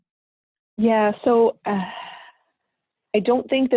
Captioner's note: sighing